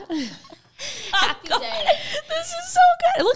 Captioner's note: both laughing